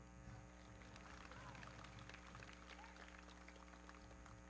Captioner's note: everybody clapping